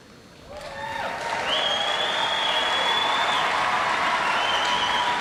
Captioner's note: audience applauds